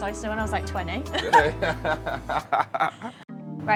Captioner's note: laughs